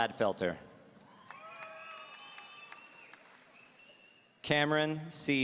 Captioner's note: audience cheering